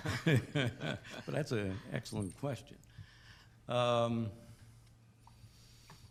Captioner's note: laughing